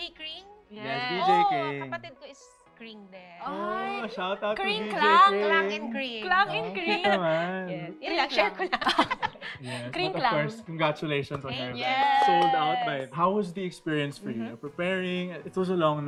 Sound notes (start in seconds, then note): 8.6 chuckling